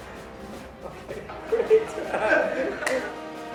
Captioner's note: laughter